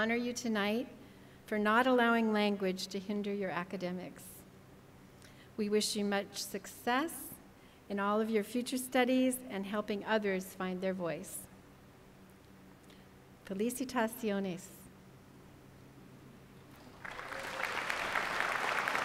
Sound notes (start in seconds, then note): 13.6 foreign language; 16.8 applause